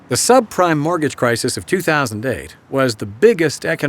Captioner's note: voiceover